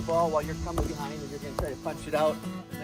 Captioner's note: pads smacking